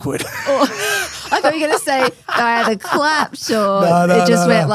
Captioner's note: laughs